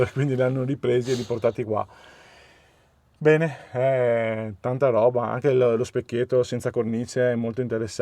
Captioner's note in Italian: sbuffare